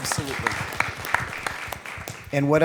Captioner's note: applause